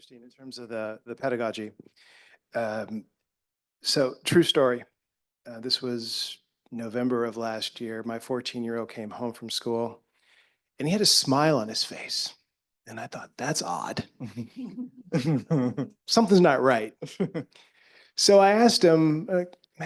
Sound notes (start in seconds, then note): 15.1 all giggling